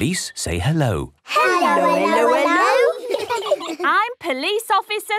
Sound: children giggle

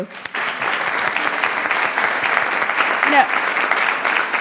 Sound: attendees applauding

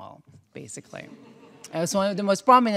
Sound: audience chuckling

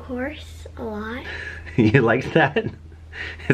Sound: laughing

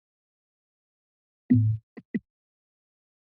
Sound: mic drop

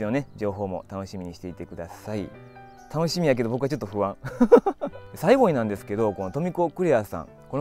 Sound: laughs

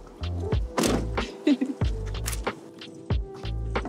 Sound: giggles

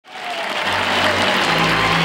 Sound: audience applauding

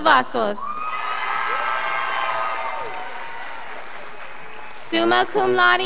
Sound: scholars applauding

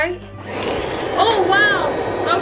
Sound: vacuum sound

